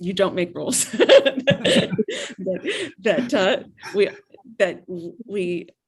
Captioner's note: everyone laughs